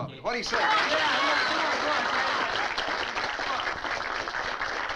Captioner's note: crowd applauding